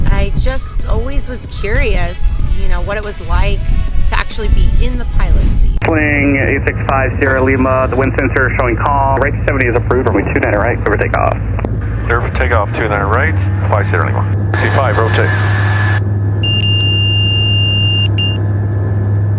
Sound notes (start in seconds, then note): 15.5 plane noises; 16.4 beeping noises